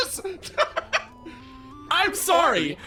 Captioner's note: laugh